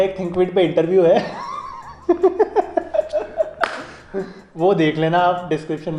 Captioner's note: laughs